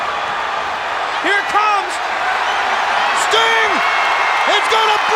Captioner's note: audience cheers